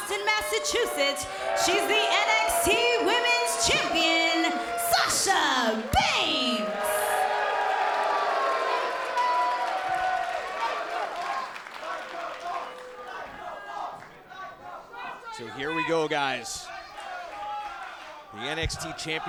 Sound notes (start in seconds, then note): 6.4 cheers & applause; 11.8 fans chanting